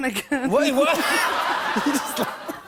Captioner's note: laughter